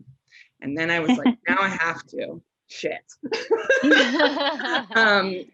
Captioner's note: chuckles